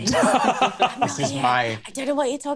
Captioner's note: laughs